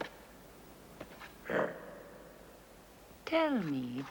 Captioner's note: growls softly